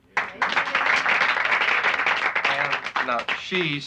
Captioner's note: applauding